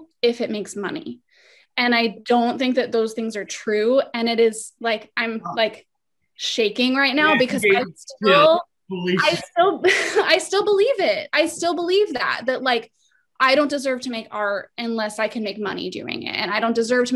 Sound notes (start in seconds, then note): 7.2 laugh